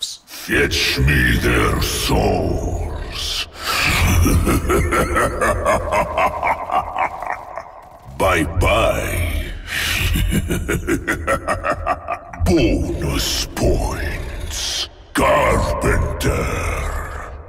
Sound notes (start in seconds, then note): 3.5 demonic laughter; 9.7 demonic laughter